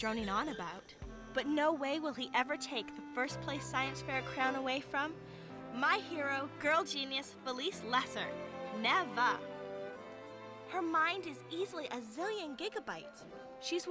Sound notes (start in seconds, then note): none